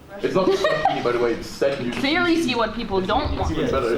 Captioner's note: chatter